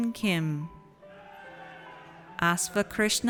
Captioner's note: audience cheers